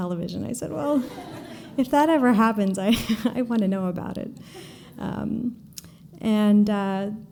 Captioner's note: laughter